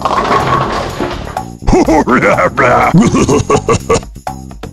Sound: laugh

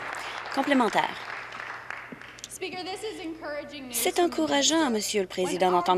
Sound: applause

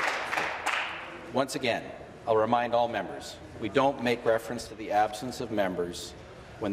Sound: applause

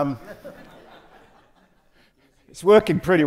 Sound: audience laughing

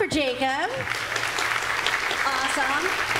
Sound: audience claps

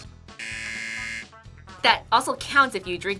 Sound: buzzer

